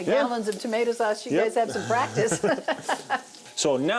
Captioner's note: laughs